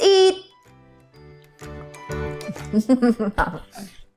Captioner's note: chuckles